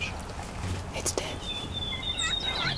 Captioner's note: whispering